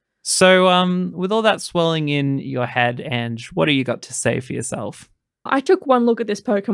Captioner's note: none